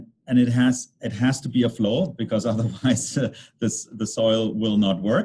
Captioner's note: chuckles